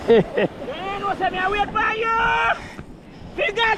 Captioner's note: laughter